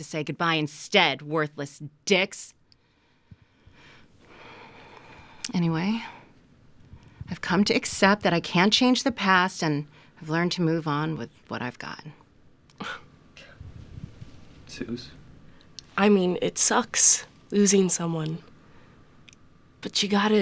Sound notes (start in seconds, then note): 13.1 Suze scoffs